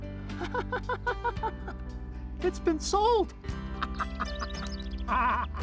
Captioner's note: laughs